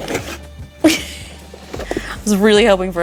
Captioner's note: laughing